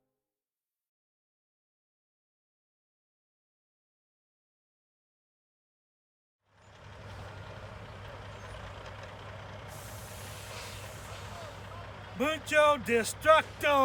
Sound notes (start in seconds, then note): 6.6 engine roaring